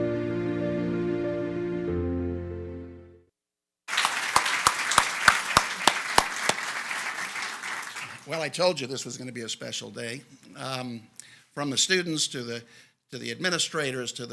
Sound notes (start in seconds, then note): 3.9 audience applauds